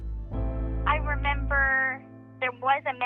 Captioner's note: Gypsy Rose over phone